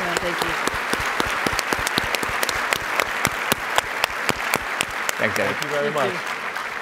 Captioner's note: audience applauds